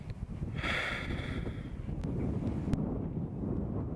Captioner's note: Jason sighs